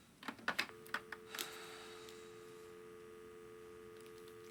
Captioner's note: dial tone buzzing